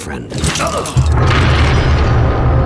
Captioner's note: grunts in pain